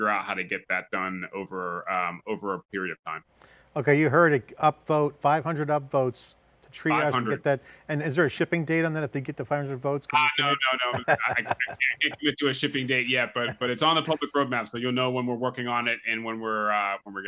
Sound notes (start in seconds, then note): 10.1 laughs